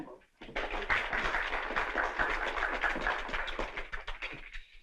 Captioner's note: applause